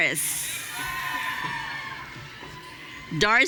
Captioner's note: audience cheering